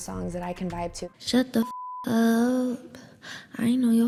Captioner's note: beep